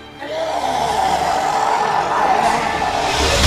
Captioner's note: Reaver growls